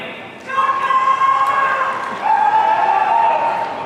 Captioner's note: audience cheering